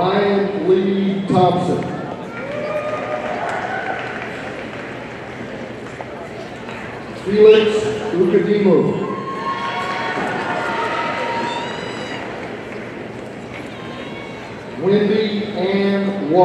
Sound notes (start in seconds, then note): 2.3 audience applauding; 9.0 audience cheering